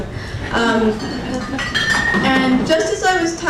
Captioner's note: crowd laughing